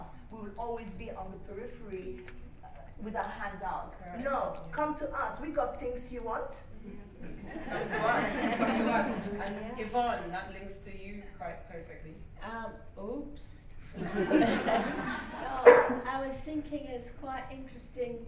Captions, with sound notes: We will always be on the periphery with our hands out. No. Come to us. We've got things you want. (LAUGHTER) Come to us. And Yvonne, that links to you quite perfectly. Oops! I was thinking it's quite interesting